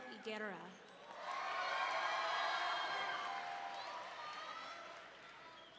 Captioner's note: audience cheering